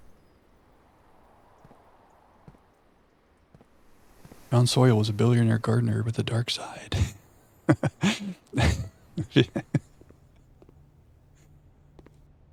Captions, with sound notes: [wind howling] Round Sawyer was a billionaire gardener with a dark side. [chuckles]